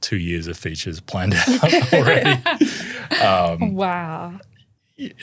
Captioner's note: laughing